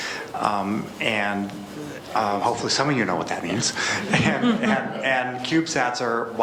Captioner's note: laughs